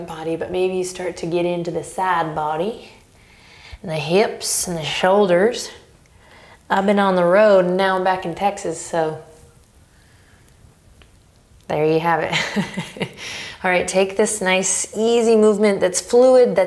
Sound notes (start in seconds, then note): 12.4 laughs